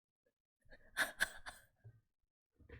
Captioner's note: laughs